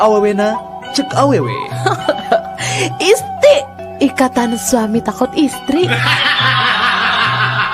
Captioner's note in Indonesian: tertawa